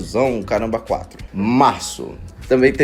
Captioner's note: another deep voice